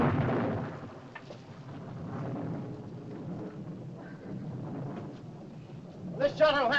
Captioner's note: thunder rumbles softly